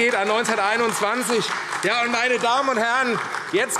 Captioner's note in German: Beifall AfD